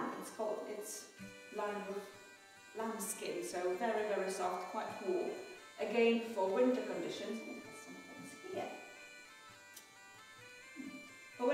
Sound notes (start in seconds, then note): 8.5 mutters